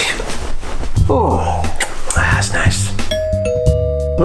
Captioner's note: door bell rings